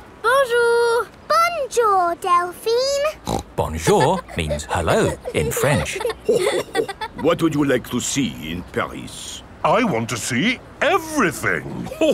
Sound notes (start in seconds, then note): 3.2 snorts; 6.5 chuckles